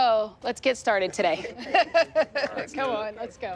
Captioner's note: laughing